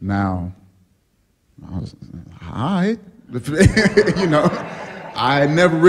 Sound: laughter

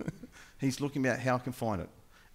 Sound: laughing

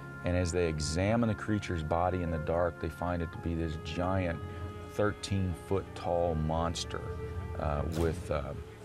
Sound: gunshot

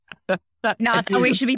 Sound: laughing

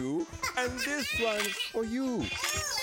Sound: laughing

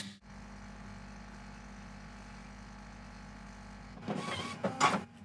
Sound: coffee machine humming

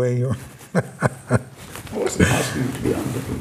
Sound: laughs

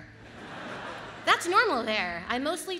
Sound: audience laughs

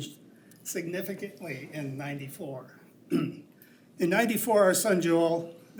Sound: clears throat

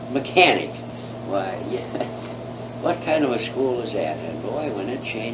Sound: laughs

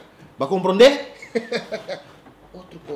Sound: laughing

